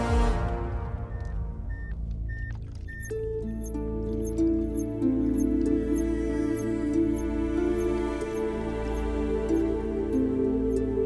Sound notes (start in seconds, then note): 2.2 watch beeps